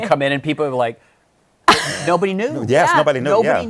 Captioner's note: laughs